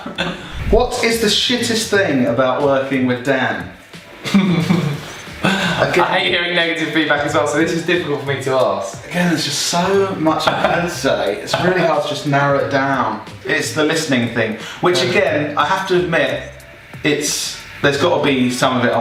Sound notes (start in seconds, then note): 4.3 laughing